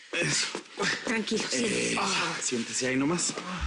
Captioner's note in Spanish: Quejidos